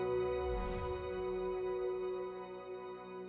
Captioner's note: music swells; whoosh